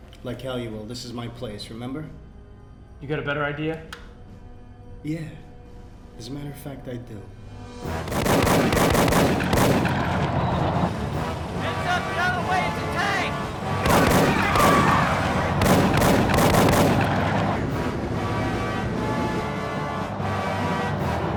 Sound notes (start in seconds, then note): 8.0 tank machine gun booming; 13.8 tank machine gun booming; 17.7 intense, dramatic music